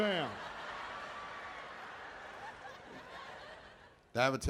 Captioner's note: audience laughing